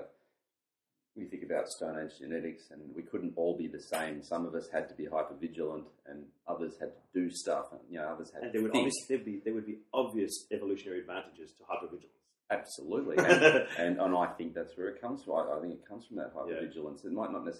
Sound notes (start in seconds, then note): 13.1 laughs